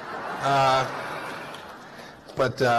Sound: laughter

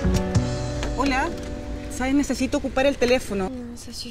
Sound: in spanish

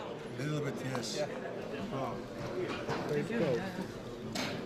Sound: speaking foreign language

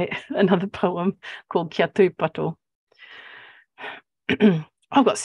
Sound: speaking Maori

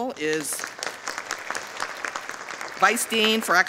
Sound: audience applauding

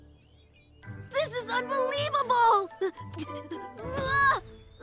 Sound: breath trembling

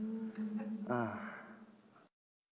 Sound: sigh

